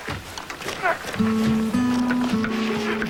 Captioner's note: grunts of effort